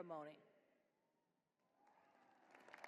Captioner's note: applause